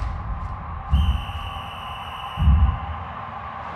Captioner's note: whistle blows